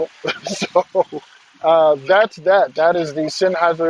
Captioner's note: laughs